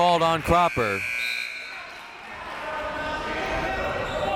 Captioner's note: buzzer ringing; whistle tweeting; crowd members shouting